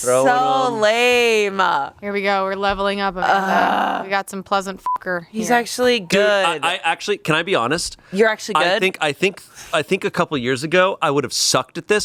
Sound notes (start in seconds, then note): 4.8 beep